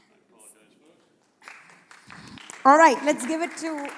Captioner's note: applause